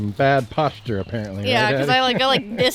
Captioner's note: laughs